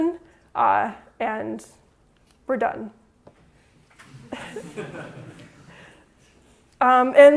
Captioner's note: laughter